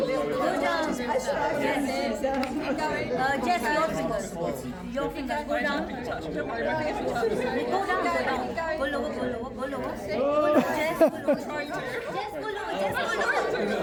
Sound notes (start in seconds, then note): 2.1 crowd chattering; 10.5 laughing; 12.1 crowd chattering